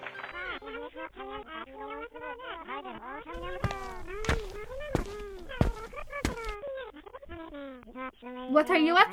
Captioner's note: TV sounds